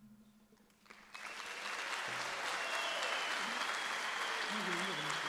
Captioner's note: audience applauds